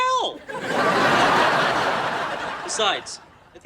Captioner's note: audience laughing